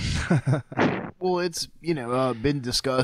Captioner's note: all laughing